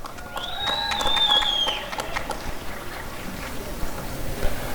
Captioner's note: applause and cheering